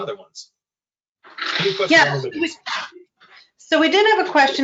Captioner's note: static